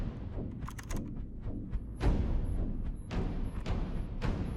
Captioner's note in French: clic du clavier